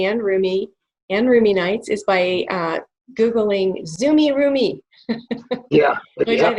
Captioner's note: laughs